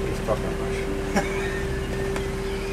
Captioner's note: laughter